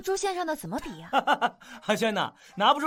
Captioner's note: laughs